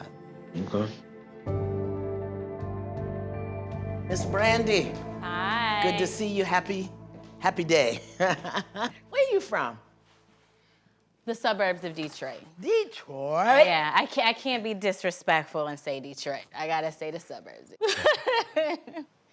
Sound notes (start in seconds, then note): 8.0 chuckles